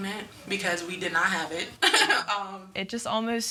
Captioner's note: laughing